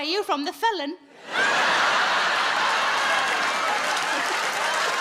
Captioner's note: audience laughs